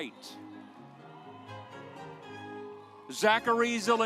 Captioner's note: audience applauds